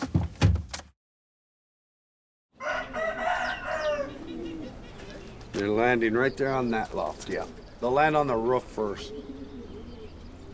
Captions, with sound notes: (rooster crowing) (chickens clucking) They're landing right there on that loft, yeah. They'll land on the roof first.